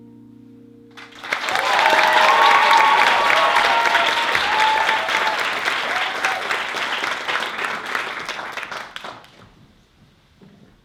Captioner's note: applause